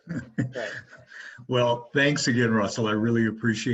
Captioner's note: chuckles